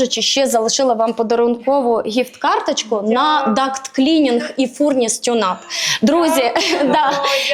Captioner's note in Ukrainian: сміх